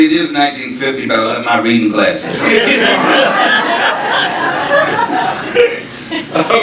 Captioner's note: audience laughing